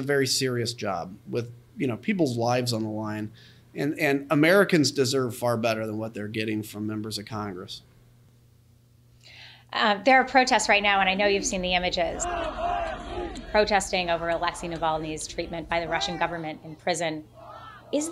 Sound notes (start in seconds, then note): 12.5 chanting in Russian